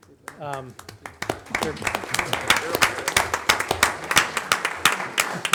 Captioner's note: audience applauding